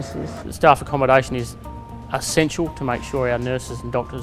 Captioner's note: man speaking